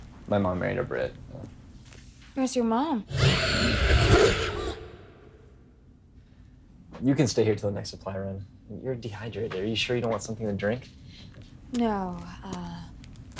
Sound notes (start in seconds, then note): 3.1 mother screaming